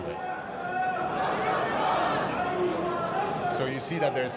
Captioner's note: crowd chatters in foreign language